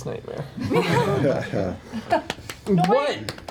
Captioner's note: laughter